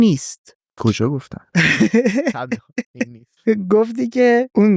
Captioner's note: laughs